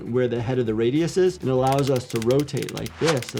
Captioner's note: machine ratchets